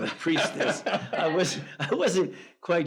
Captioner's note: laughs